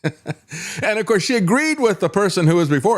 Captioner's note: laughs